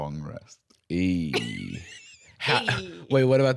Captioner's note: laughing